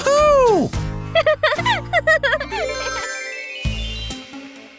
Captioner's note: chuckles